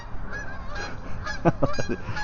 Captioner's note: geese honking; laughs